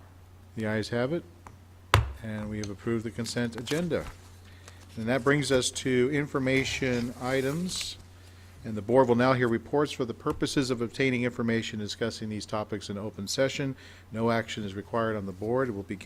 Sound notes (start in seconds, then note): 1.9 gavel smacking